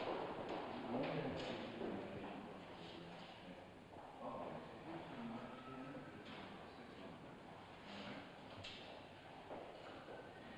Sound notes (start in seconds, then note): 0.8 indistinct conversation; 8.9 footsteps